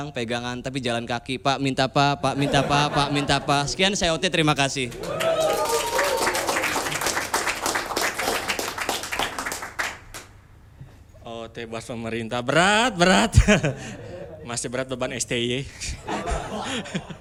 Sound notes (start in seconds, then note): 7.8 applause